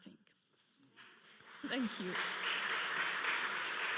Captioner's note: audience applauding